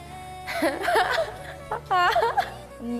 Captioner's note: laughs